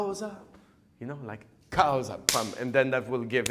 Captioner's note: claps